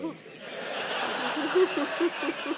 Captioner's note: laughter